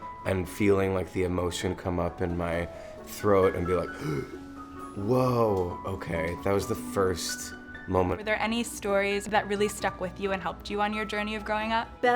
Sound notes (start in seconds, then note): 3.9 gasps